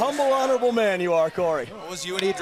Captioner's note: crowd cheering